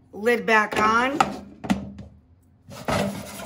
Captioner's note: lid clatters; pan scratches